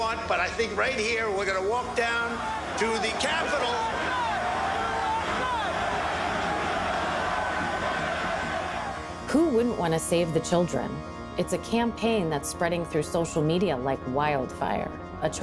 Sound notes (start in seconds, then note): 3.7 crowd yelling